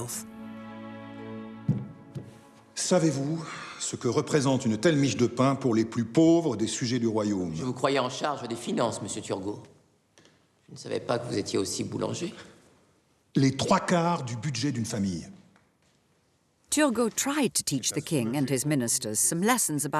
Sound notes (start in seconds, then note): 0.0 gentle music; 3.0 men speaking in French